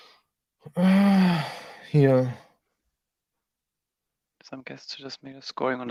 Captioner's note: sighing